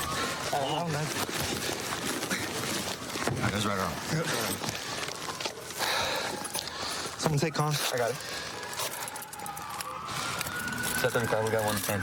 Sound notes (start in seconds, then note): 4.7 sirens in distance